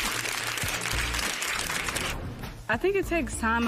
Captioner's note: applause